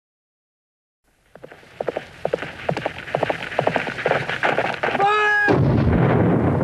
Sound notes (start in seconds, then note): 1.1 horse hooves clopping; 5.4 cannon booms